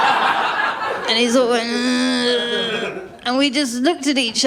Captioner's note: laughter; creaking